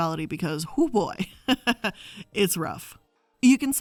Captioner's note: laughs